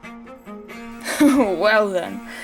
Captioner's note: Verriot laughs